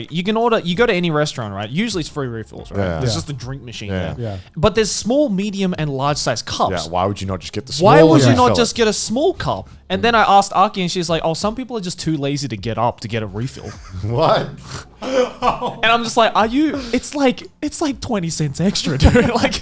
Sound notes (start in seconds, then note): 15.0 laughing